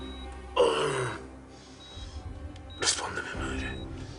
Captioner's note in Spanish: Quejido